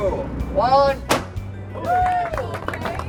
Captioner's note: pop; applauding